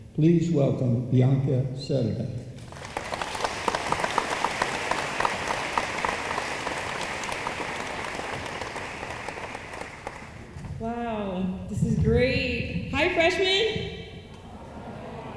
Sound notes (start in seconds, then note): 2.5 room applauds